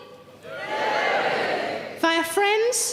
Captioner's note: audience cheering